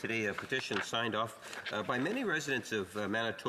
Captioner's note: speaking French